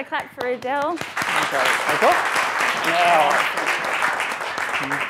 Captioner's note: presenter and audience applaud